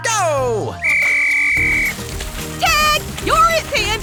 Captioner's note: whistle blowing